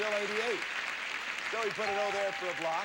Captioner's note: audience applauding